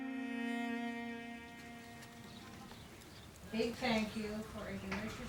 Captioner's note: voice from inside